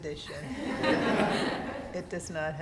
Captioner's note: students laughing